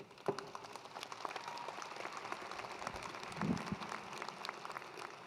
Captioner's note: attendees applauding